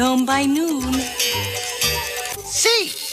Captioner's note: cuckoo clock sound